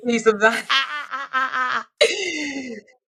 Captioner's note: laughs